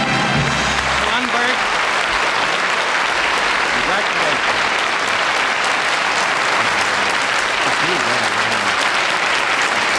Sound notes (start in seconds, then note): 3.9 applause continues